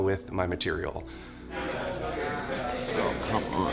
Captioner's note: people chattering